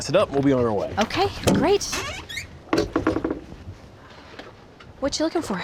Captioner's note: creaking sound